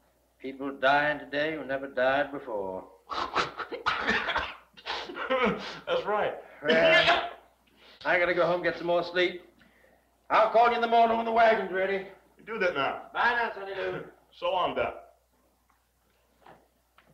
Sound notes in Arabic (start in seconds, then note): 3.0 يضحك